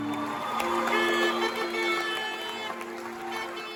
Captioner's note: cheering